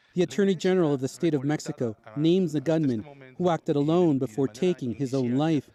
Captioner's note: speaking spanish